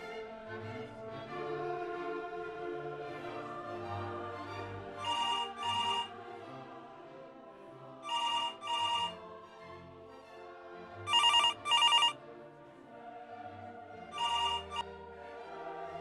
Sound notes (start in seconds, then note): 5.0 phone rings; 14.2 ringing stops